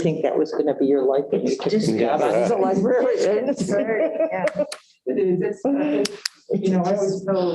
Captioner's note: laughter